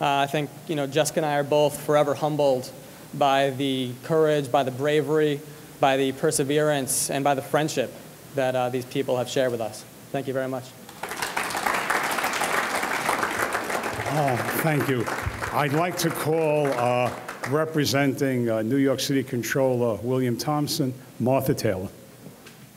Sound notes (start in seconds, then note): 10.8 audience clapping